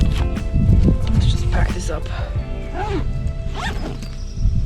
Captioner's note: zipper zips